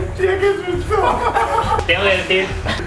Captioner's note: they laugh